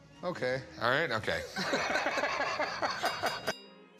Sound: laughs

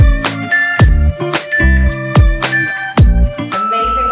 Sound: timer beeping

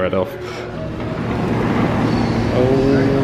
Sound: door slides

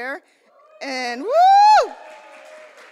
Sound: crowd cheers

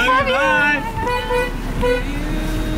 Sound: van horn

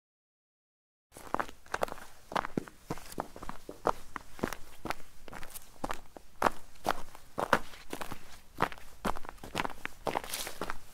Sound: sound of footsteps

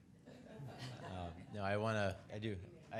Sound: people laughing

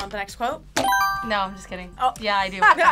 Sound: buzzer rings

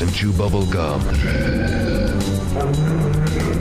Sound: growling

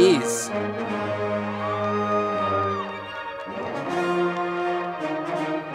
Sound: audience applauding

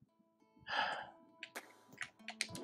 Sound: sighs

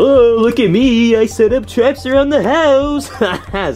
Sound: laughs

